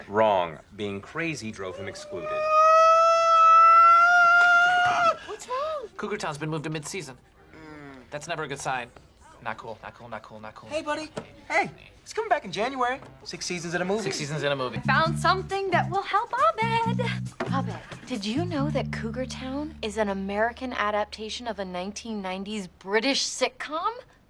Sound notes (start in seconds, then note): 1.6 ABED starts to shriek; 1.6 ABED shrieking gradually louder; 7.6 TROY goes mmh